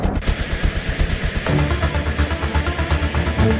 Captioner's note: jet engine buzzing; adventurous music